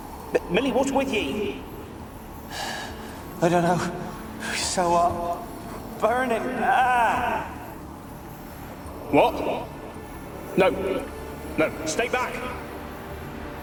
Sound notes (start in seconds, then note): 2.5 out of breath; 7.5 cries out